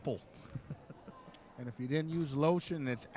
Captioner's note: chuckling